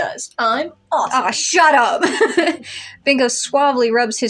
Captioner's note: laugh